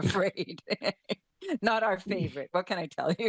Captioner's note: laughs